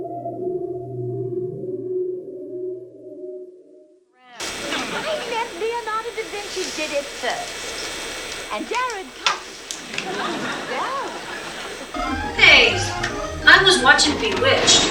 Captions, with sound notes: (hissing) (hissing) - Hey, I was watching Bewitched.